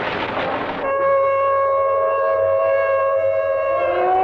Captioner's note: sirens wailing